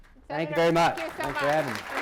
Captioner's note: applause